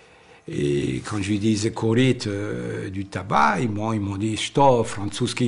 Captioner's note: foreign language